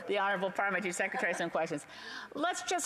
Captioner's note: laughter